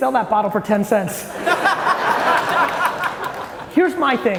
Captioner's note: audience laughing